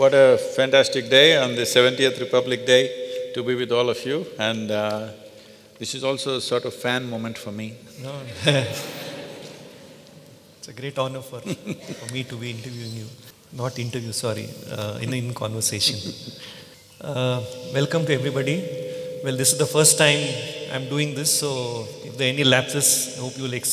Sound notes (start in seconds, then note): 8.3 laughter; 11.5 Sadhguru Laughs